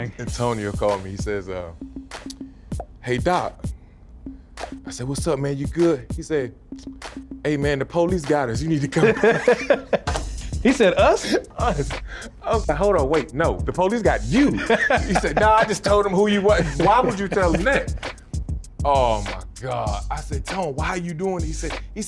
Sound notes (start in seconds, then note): 8.8 laughing